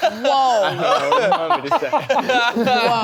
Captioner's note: people laughing